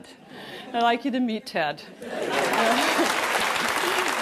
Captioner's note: applause